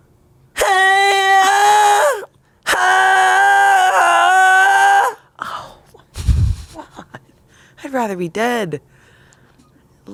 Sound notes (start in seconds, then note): 0.6 screams